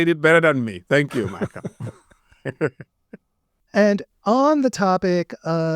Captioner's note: laughs